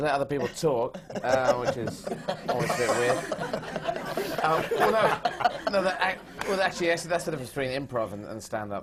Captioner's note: laughter